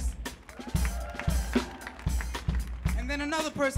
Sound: audience clapping and cheering

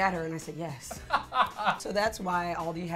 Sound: laughs

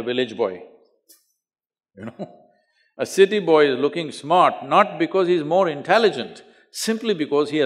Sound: laughs

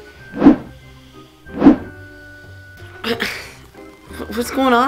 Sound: camera whooshing

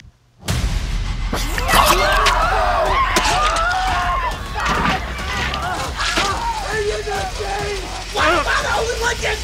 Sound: screaming and gooshing of blood

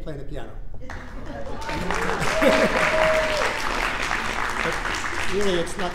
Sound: audience applauding

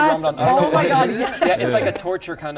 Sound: laughs

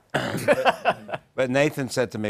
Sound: clears throat

